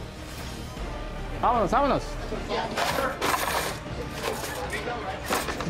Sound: non-english speech

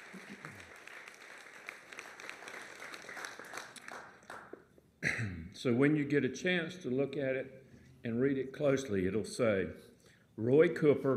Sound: applause

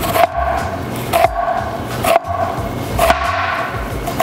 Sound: knife chopping

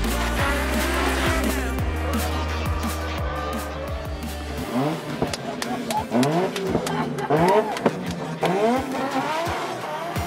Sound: excited clapping

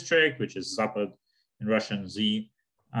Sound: speaking in Russian

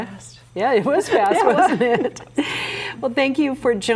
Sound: everyone laughs

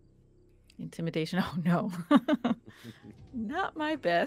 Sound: laughs

